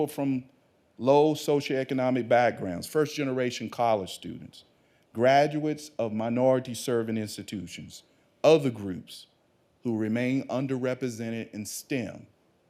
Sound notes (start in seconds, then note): none